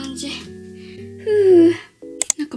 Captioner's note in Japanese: 深呼吸